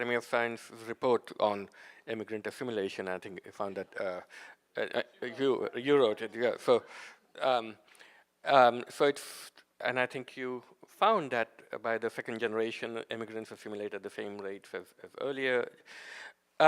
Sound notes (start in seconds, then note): none